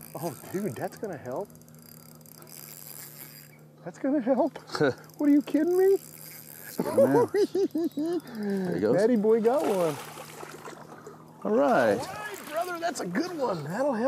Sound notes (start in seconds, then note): 6.6 laughs